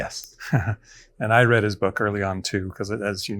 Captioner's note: chuckles